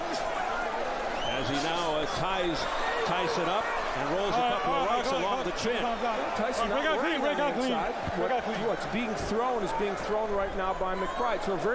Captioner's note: applause